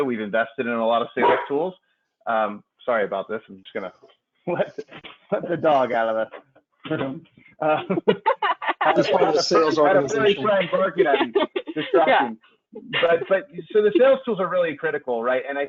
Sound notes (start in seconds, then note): 1.2 dog barking; 7.6 laughing